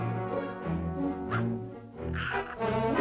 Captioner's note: growls; snarls